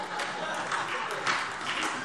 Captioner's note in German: Heiterkeit und Beifall SPD, AfD, vereinzelt CDU und Freie Demokraten